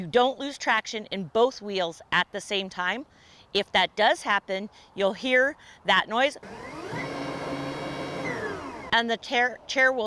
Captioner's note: sound of wheels whirling